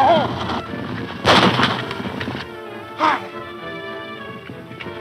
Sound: gun fires

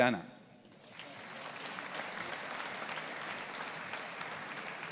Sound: audience applauding

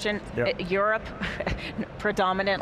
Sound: laughing loudly

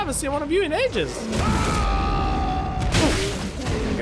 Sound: roar of greeting

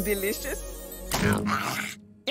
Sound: gagging

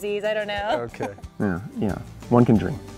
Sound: laughs

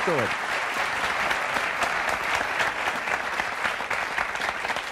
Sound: audience applauding

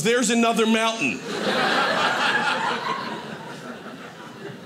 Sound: audience laughing

